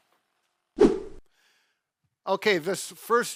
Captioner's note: screen swooshes